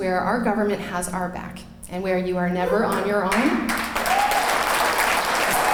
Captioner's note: clapping